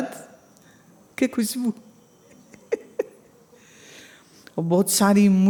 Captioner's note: chuckles